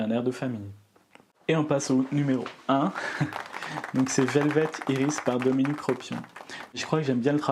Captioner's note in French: applaudissements